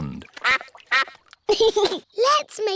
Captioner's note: quacking; giggles